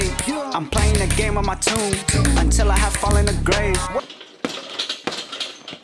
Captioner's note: punching bag rattles